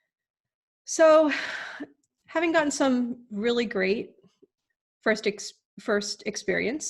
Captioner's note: sigh